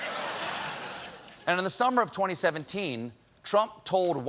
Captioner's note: laughter